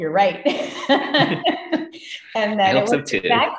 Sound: laughs

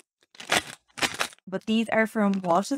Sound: plastic package crinkling

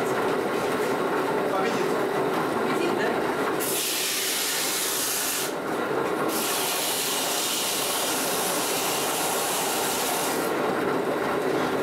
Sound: whir when polishing the stone

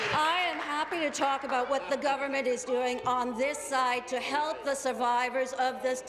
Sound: applause

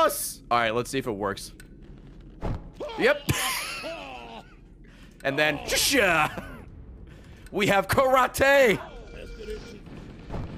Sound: laughs

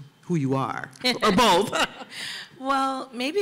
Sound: laughs

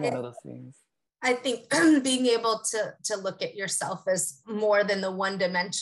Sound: cough

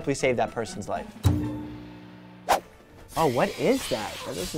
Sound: string plucking again; swooshing

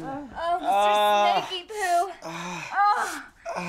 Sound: boyfriend moans

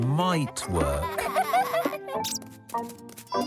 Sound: laughing; squeaking

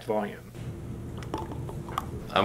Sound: sound of liquid metal

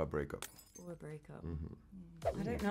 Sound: glass smashing

